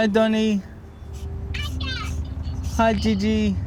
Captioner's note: child On Phone